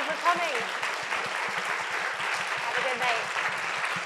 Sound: audience applauds

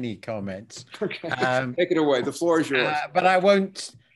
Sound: laugh

